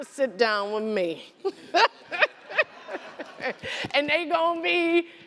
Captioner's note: laughter